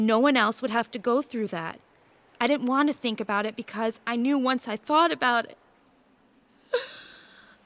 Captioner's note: cries